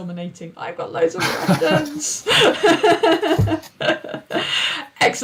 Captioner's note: laughing